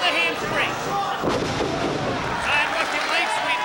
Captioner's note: bodies slamming